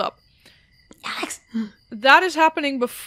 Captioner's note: whispering